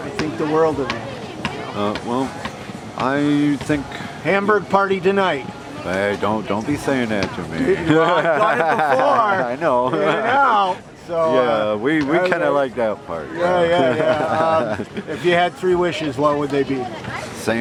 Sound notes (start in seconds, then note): 7.6 laughs